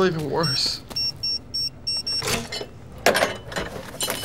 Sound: safe beeping; cash rustling

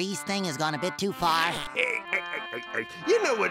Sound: laughs

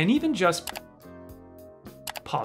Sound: mouse click

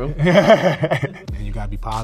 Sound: laughter

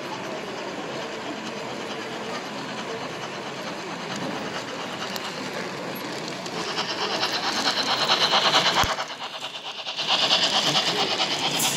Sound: locomotive sound

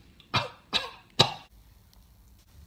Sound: coughs

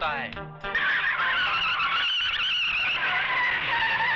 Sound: tires Screeching

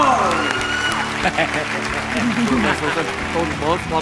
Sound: applause

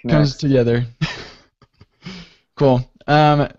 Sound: chuckles

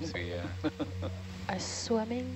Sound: scientist laughing

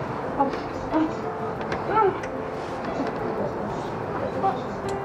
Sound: cries

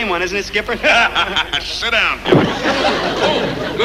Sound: forceful laugh

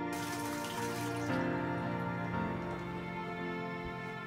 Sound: water running

